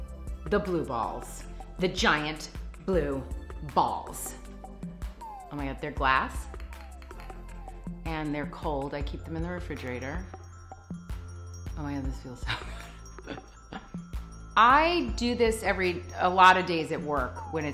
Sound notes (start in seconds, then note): 6.5 glass clinking; 13.2 laughs